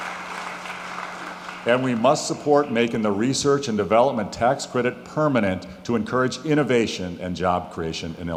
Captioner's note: applause